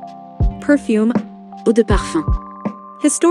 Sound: french Speaking: Eau de Parfum

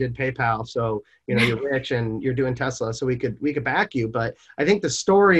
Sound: chuckles

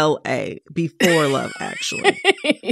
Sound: laughter

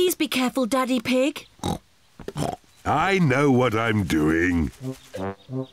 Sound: snorts

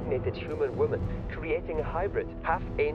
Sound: laughs

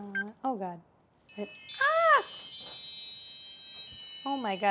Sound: alarm chiming

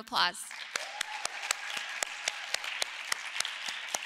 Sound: audience cheering

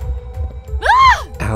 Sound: Allison screams

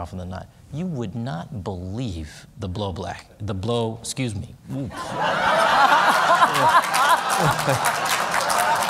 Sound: laughter

